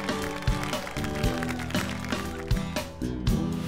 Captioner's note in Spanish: Aplausos